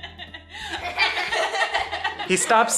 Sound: everyone laughs

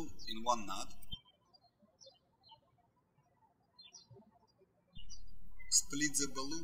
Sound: birds chirping

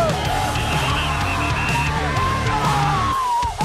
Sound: cheering

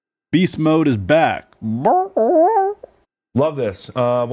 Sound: squawks

